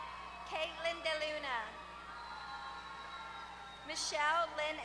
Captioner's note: applause